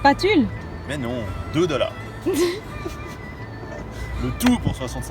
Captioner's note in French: rires